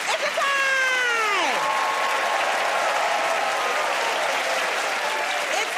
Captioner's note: cheers and applause